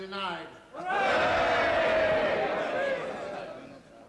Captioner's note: cheering